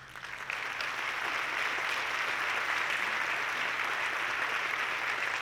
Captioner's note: audience clapping